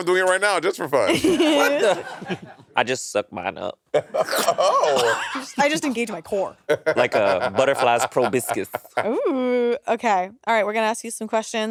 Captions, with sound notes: - I'm doing it right now just for fun. (all laughing) - What the? - I just suck mine up. (crew laughing) - I just engage my core. - Like a butterfly's proboscis. - Ooh! - Okay, all right, we're gonna ask you some questions.